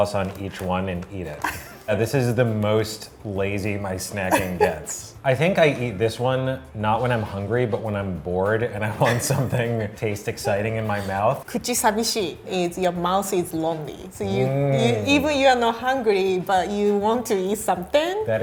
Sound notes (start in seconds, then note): 1.4 laughing